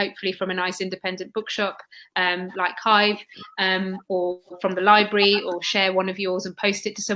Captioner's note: erm